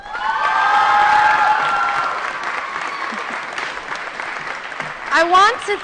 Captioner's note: applause & Cheering